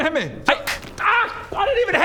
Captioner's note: thwack!